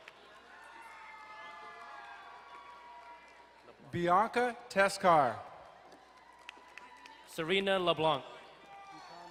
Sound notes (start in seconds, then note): 0.0 crowd cheering and applauding; 5.4 distant cheering